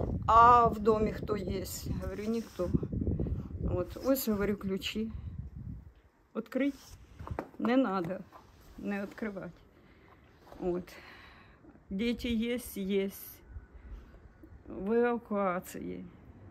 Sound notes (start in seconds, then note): 0.0 in Russian; 6.7 Russian